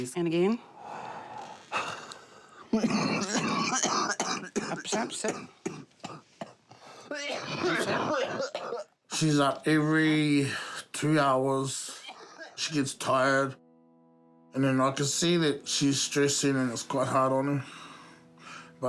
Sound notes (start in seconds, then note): 0.8 inhales, exhales forcefully; 2.7 coughs chestily; 7.0 coughs; 11.1 sighs